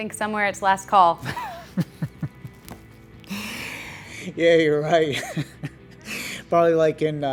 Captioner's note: laughs